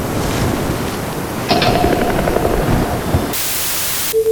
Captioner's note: clicks and Groans; Static